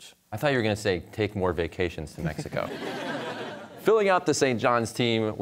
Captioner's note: audience laughter